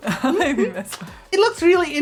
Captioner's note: Sandrine laughs